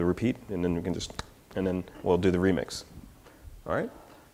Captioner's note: snaps